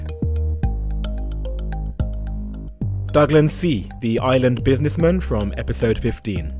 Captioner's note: voiceover